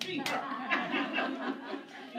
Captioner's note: laughter